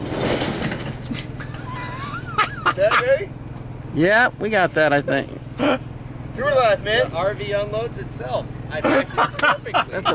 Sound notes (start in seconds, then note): 1.3 laughs loudly; 8.8 laughs; 8.8 laughs loudly